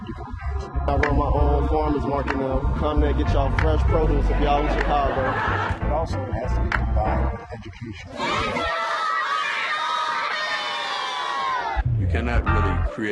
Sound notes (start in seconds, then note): 5.0 laughter